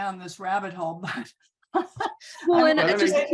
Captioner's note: laughs